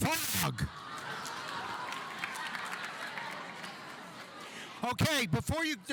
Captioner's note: audience laughing